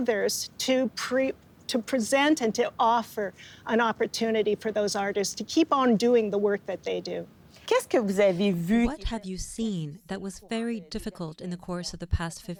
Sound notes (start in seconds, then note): 8.0 speaking French